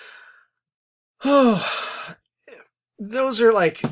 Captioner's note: sighs